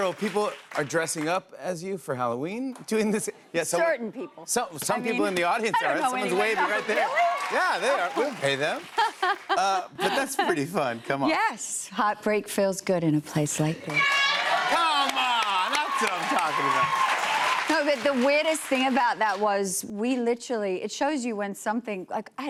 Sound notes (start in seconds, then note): 8.8 laughs; 13.9 cheers and applause